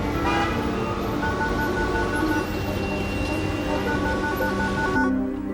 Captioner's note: phone ringing